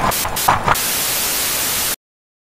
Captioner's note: static Effect